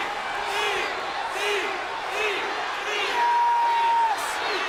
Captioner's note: crowd chants